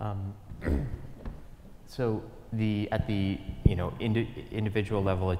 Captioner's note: cough